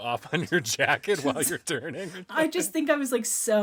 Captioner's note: laughing